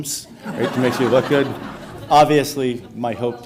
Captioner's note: audience laughs